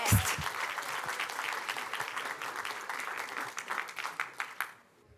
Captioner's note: applause